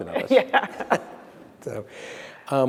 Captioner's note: laughs